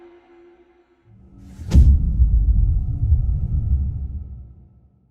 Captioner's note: dramatic sound